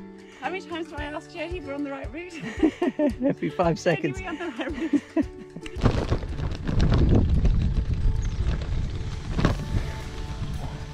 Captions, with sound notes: How many times do I ask Jody if we are on the right route? [laughter]. Every 5 seconds